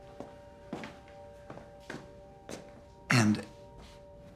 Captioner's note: footsteps tapping